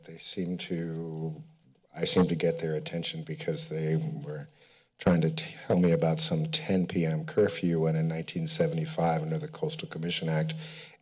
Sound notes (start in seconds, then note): none